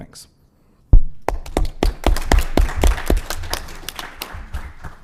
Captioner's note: applause